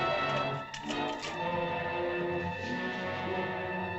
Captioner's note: suspenseful music; tree crackles; suspenseful music